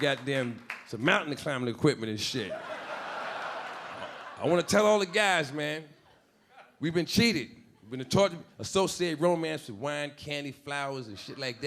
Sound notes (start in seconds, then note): 2.4 audience laughing